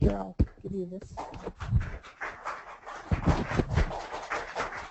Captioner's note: audience clapping